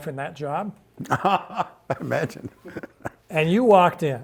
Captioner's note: laughs